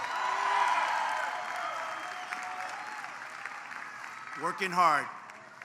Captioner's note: applause